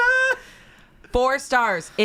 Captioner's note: laughs